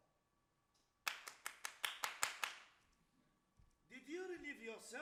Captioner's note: man Claps